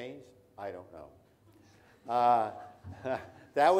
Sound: all laugh

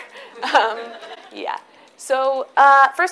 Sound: audience laughs

